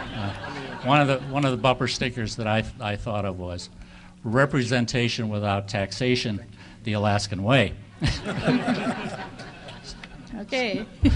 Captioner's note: audience laughing